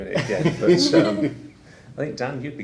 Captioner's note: laughing